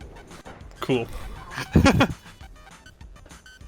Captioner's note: laughs